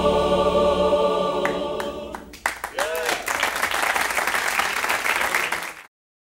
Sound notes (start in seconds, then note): 2.2 applause